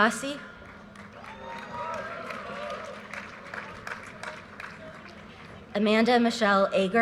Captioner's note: audience cheers and applause